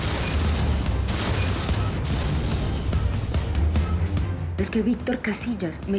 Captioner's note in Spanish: explosiones